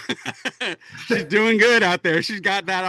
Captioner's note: laughs